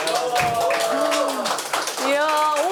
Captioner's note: applause